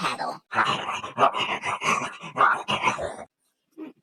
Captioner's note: growling